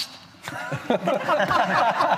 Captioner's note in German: Lachen